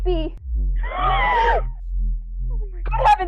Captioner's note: crowd gasps